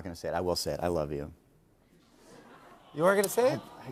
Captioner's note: audience aws